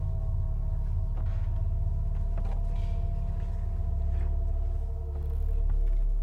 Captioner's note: quiet, eerie music; quiet, shuffling footsteps